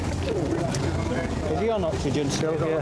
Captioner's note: people chattering